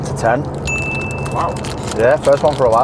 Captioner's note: bell chime